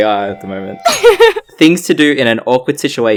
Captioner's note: laughs